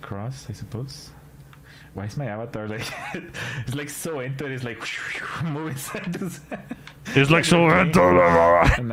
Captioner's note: laughter